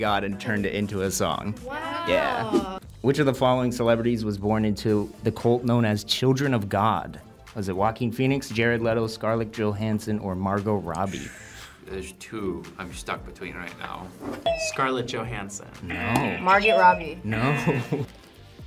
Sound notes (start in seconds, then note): 11.5 sighs; 15.9 buzzer; 17.3 laughs